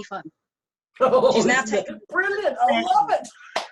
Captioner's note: laughs